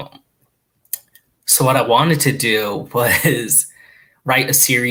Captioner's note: laughs